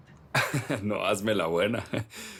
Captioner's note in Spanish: Risas